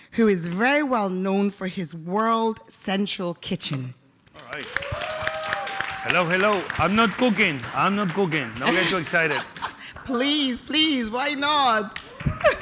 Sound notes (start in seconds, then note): 4.5 audience cheering